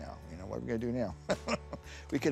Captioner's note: laughs